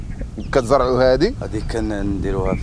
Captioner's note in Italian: parla in arabo